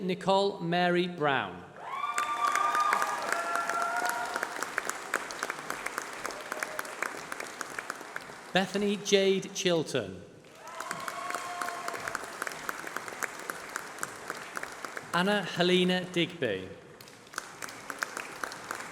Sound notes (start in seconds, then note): 1.8 applause